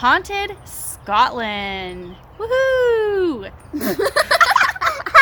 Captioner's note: laughing